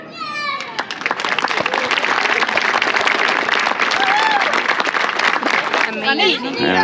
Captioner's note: the constant applause and shouts of the people